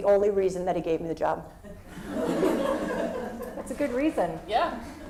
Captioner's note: laugh